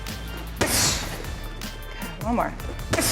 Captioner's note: kick thuds